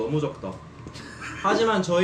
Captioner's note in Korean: 누군가의 비웃는 소리 -_-^